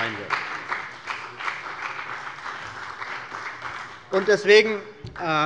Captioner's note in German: Beifall bei dem BÜNDNIS 90/DIE GRÜNEN und der CDU